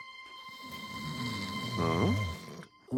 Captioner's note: snoring